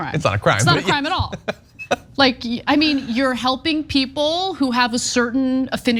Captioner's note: laugh